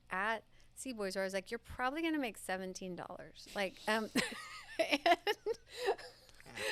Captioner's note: laughs